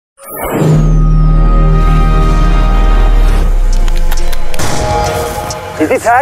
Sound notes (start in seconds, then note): 0.2 Xbox starting; 3.9 upbeat music